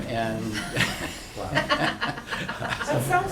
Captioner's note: laughter